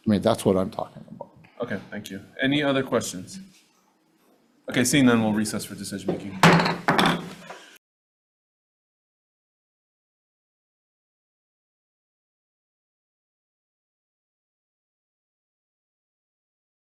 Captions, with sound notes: I mean, that's what I'm talking about. - Okay, thank you. Any other questions? Okay, seeing then we'll recess for decision making. (loud thump)